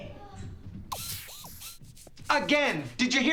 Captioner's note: whirring